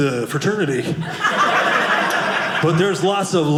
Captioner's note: audience laughing